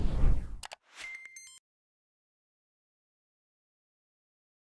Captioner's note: logo swooshing; clicking and beeping